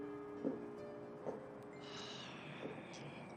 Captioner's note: sighs